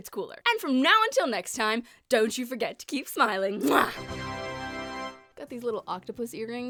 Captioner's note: kiss sound